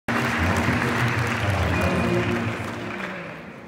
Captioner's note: applause